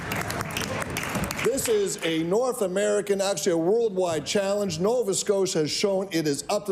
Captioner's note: cheering/Applause